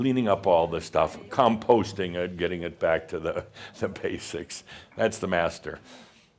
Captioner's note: Adamus chuckles